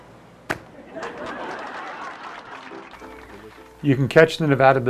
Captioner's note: laughter, Applause